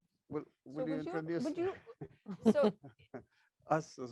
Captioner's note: laughing